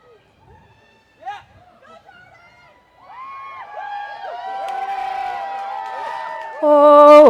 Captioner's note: cheering